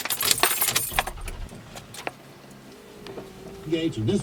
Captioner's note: engine starts